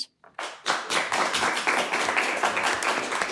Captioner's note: applause